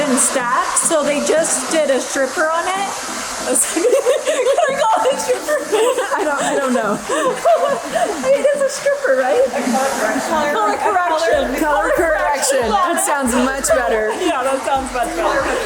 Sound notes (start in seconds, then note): 5.9 laughing